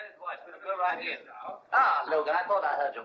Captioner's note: muffled chatter